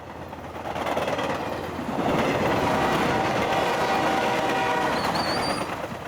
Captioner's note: train sounds